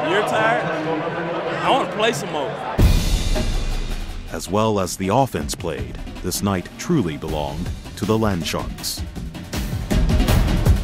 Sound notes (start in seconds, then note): 4.5 voiceover